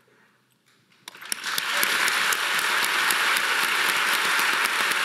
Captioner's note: audience applauding